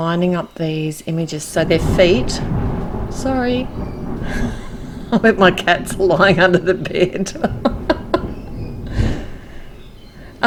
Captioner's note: more thunder